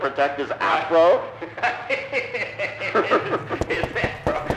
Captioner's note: nasty caller laughing